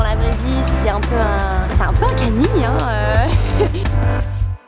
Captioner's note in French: rires